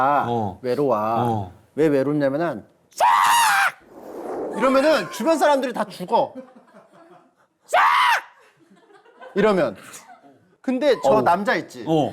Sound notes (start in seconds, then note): 2.9 screaming